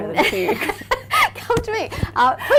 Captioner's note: laughing